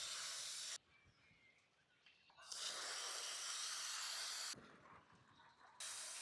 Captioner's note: sizzling